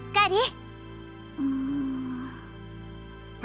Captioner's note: zzzzz